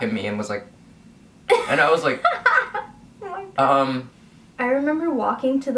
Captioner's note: laughs